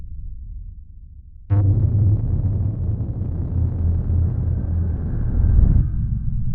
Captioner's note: distorted noise; deep thud